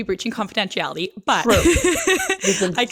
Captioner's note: laughs